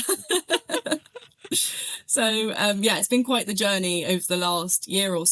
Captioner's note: laugh